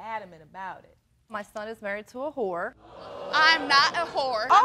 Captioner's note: audience gasps